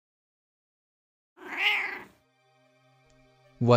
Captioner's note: cat meow